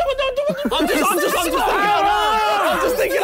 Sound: yelling

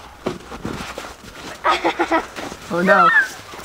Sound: laughs

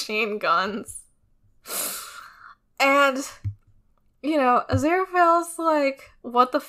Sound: none

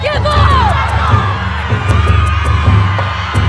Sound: cheering

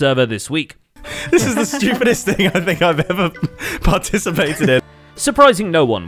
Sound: laughing

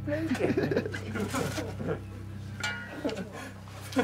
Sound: all laughing

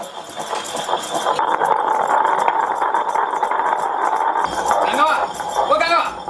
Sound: grinding stone hissing

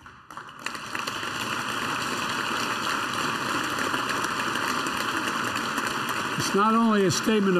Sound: applause

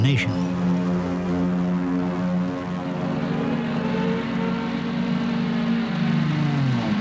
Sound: sounds of planes and bombs

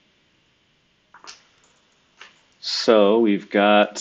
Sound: computer keyboard clicking

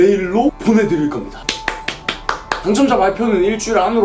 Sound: clapping

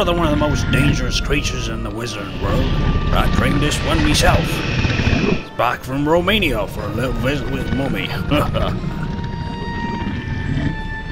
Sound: chuckles

